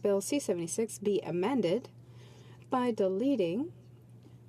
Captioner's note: speaking French